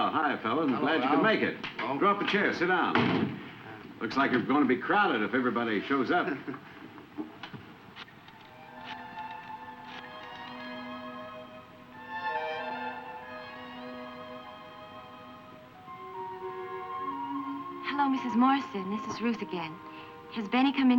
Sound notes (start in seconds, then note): 8.3 telephone whirring; 9.5 slow somber music